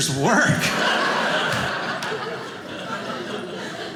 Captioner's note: audience laughing